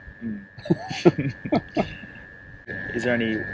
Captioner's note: laughing